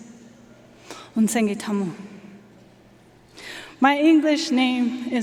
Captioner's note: speaking foreign language